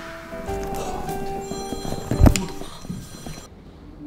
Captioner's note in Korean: 샤악, 효과음; 따르릉, 전화 벨소리